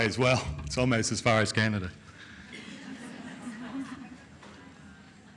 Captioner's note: laughing